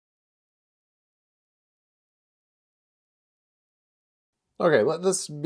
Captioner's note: silence